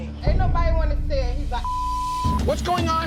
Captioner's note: beep